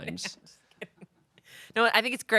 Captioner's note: Amanda laughs